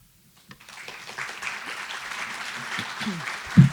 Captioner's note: applause